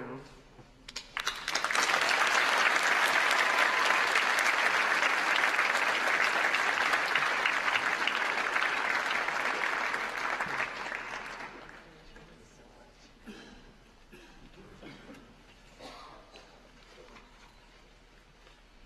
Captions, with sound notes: her work, passionate about everything she is involved with, thus enthusiastic and a pure joy to be around. [ APPLAUSE ]